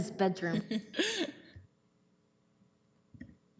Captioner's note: chuckles